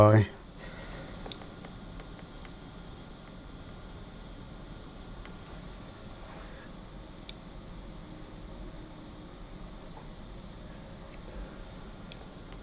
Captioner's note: silence